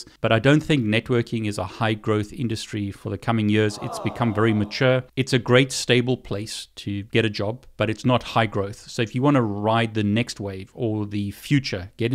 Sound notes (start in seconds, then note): 3.6 crowd